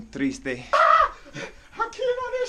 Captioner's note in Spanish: gritos